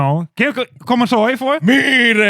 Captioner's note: speaking In Foreign Language